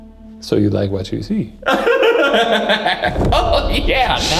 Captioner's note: laughs